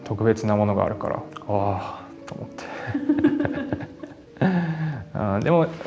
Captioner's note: laughs